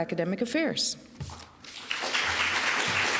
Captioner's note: applause